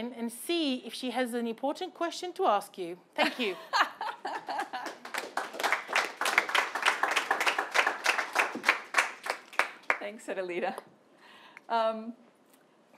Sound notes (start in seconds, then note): 3.2 laughing; 4.4 audience clapping